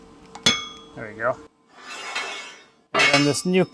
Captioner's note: metal clanging